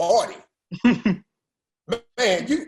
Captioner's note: laughter